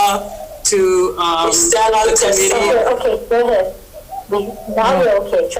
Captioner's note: audio repeating and overlapping